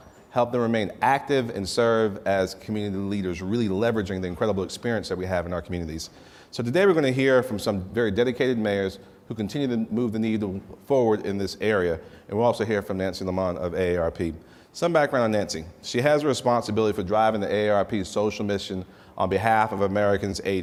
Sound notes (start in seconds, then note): none